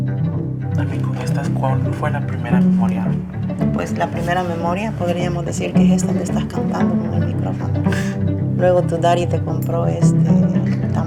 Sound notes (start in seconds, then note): 0.7 in Spanish; 3.5 Hera’s mother, in Spanish